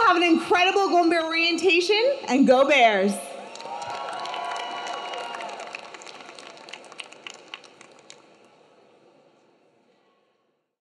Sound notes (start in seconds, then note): 3.4 audience clapping; 3.5 audience cheering